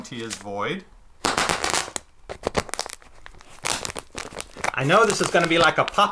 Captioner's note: plastic popping and crackling